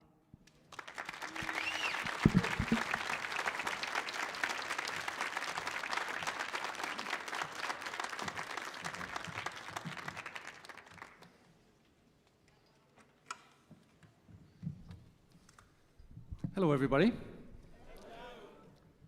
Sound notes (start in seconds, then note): 0.8 audience applauding